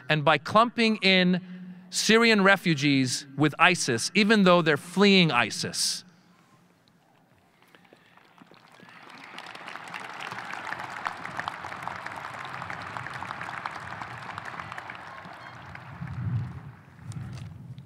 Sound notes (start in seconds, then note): 9.3 audience applauding